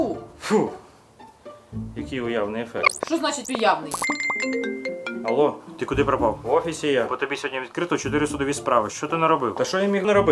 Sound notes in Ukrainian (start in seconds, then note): 3.8 дзвонить телефон